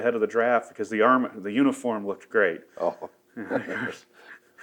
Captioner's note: both laugh